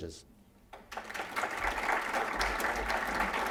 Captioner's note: applause